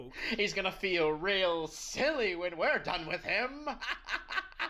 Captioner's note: laughs